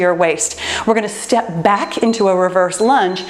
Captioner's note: timer beeps